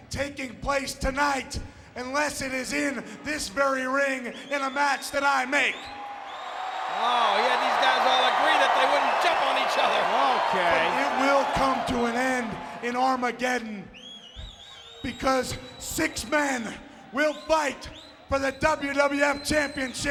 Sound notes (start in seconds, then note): 6.4 audience cheering